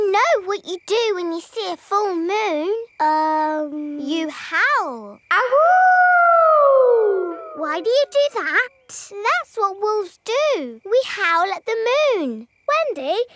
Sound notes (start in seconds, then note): 5.3 howling